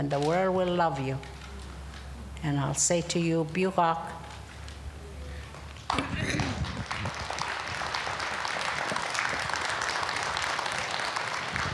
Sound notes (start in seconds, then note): 6.7 speaking indigenous language; 9.1 applause